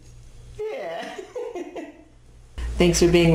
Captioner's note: laughs